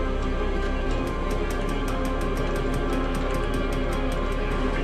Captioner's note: ratchet clicking